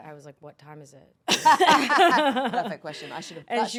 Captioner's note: everyone laughing